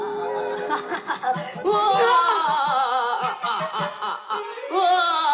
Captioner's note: laughing